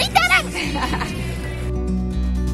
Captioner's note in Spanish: risas